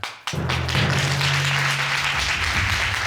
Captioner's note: audience applauds